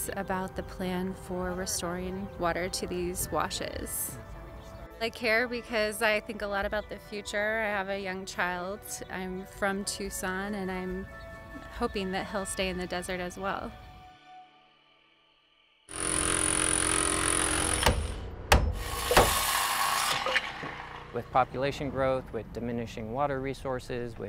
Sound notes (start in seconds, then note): 15.9 drilling buzzing; 17.8 hammer pounding; 18.7 saw whirring